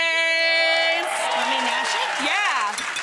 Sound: audience cheering and applauding

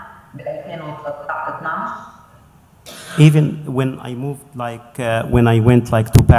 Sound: speaking in Arabic

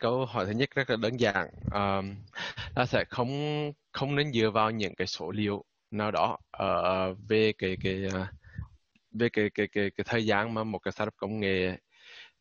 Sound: speaking Vietnamese

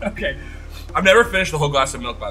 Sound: laughs

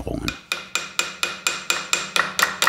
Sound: hammering

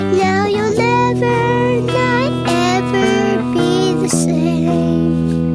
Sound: none

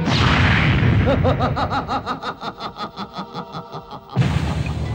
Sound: laughs

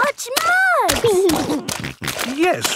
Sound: snorting

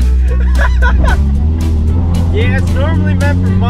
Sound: laughing

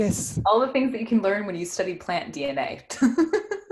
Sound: giggles

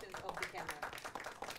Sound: applause

